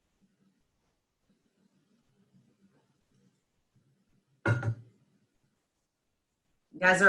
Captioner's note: silence